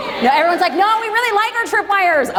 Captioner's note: crowd cheers